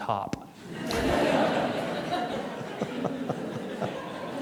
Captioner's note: audience chuckling